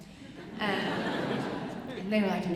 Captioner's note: audience chuckling